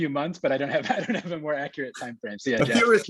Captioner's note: laughs